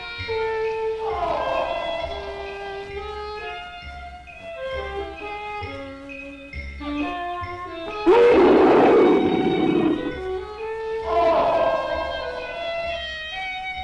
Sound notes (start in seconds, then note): 0.4 roaring; 8.0 Pete roaring; 10.2 roaring